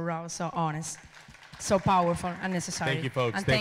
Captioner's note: audience applauding